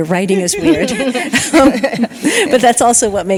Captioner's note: all laughing